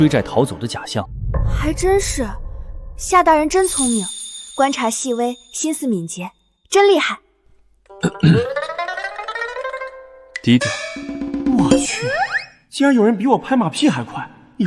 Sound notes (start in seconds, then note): 8.0 cough